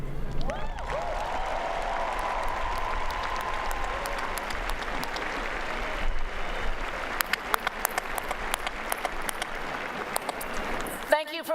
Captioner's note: applause